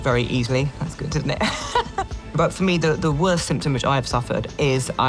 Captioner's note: laughs